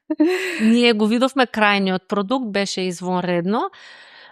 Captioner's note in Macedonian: смеа